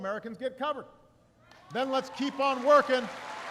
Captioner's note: applause